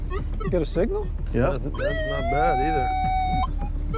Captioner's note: loud beeping